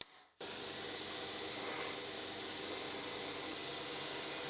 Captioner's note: driller whirring